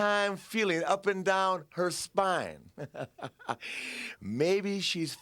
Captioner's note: laughs